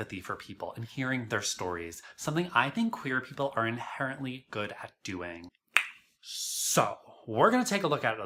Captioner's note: tongue pop